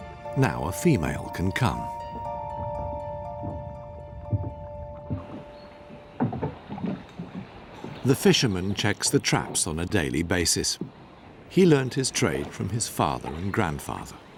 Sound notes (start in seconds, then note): none